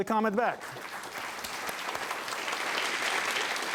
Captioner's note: applause